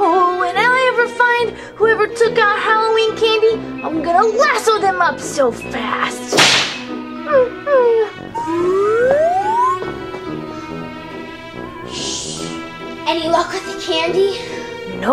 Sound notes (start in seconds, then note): 6.3 whip cracks